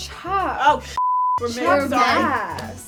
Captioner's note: beep